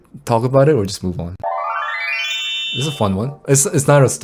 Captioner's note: bell chiming